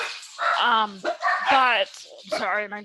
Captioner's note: dogs bark in background